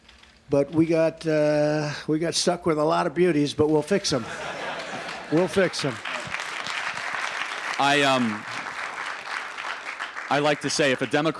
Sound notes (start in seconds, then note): 4.1 laughter; 6.7 applause